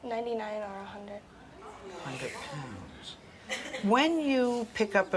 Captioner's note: audience gasps